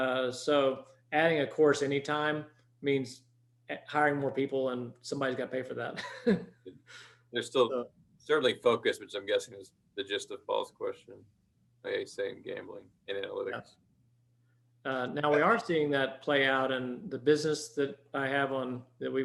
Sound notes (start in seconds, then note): 5.9 chuckles